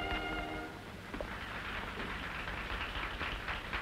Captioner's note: applause